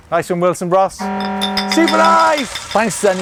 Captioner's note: horn sounds